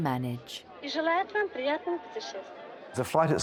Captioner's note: attendant speaking Russian